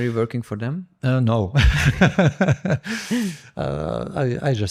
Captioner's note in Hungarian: nevetés